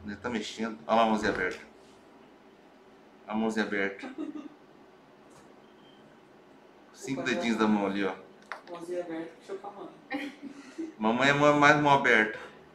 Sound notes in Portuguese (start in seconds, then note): 3.9 risos; 10.1 risos